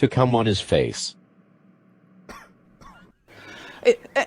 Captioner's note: horrified silence, one embarrassed cough